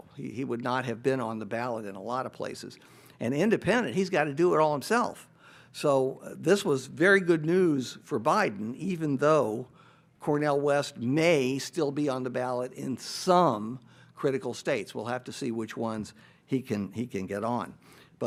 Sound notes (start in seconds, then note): none